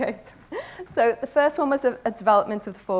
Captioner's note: laughs